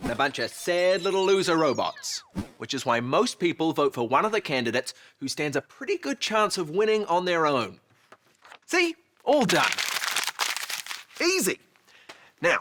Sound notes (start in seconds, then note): 9.2 paper rustles